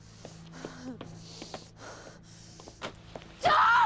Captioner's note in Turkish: Nefes sesi